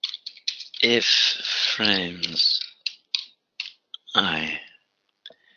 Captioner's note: typing